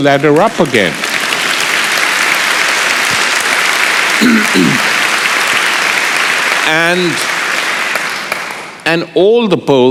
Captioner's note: applause